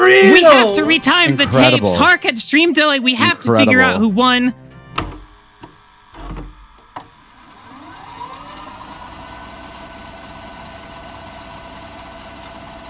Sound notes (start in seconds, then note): 4.9 tape recorder clicks; 7.4 tape recorder rewinds